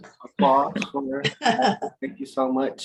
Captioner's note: laughter